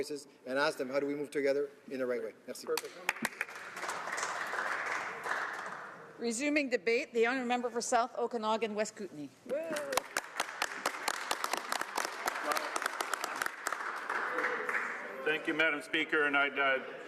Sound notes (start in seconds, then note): 9.6 some Applause